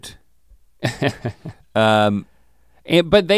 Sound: Link chuckles

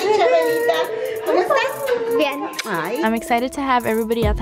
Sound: speaking in foreign language

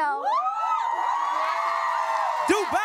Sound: cheering, applause

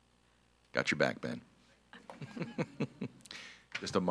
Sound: laughs

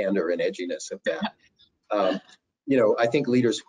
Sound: chuckles

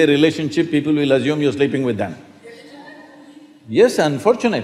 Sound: few Laugh

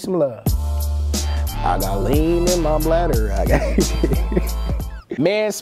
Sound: laughing

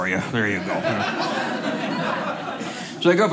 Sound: audience laughing

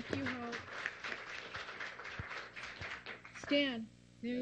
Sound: applause

